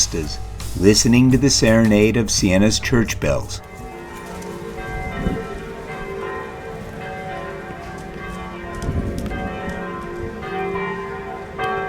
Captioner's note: church bells ringing